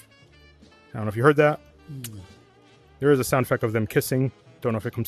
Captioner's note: kiss; moan